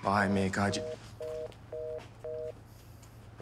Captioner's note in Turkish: Telefon kapanma sesi